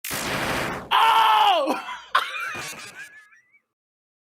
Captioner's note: yells; laughs